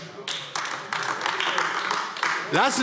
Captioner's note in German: Beifall AfD